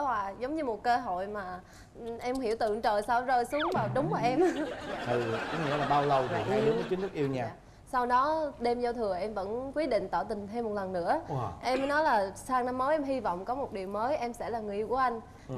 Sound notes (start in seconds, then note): 3.6 laughing